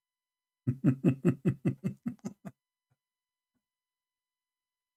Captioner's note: Ketawa